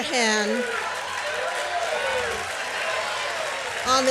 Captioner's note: cheers and applause